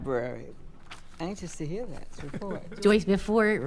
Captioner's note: chuckling